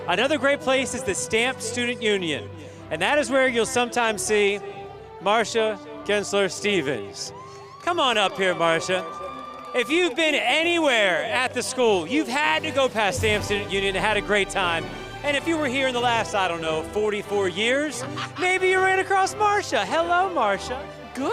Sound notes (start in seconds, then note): 7.3 audience cheering; 18.0 laughs